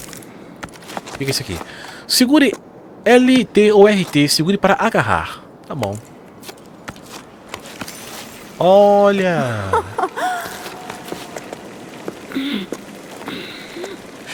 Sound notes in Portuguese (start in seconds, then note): 9.6 risadas